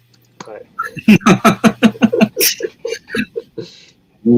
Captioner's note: laughs